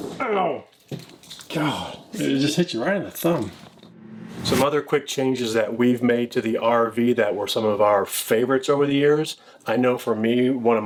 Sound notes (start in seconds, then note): 3.6 logo whooshing